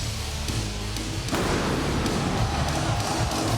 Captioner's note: pyro blasts; audience cheering